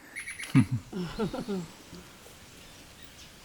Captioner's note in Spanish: risas